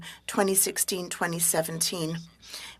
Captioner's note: speaking French